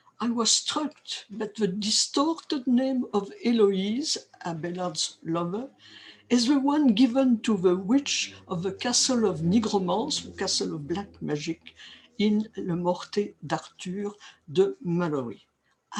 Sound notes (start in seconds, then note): 9.7 french